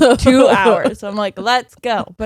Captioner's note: laughing